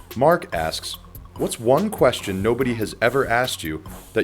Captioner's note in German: Voice-over